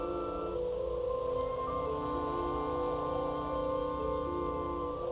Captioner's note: geiger counter clicks on